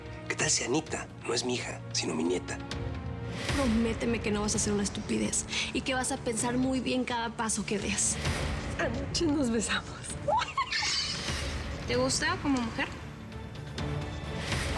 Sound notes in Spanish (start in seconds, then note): 10.2 risas